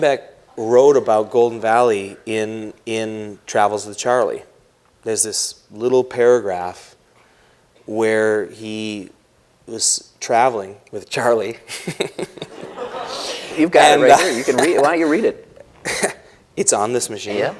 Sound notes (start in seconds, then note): 12.0 laughs